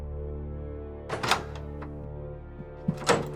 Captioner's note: door opens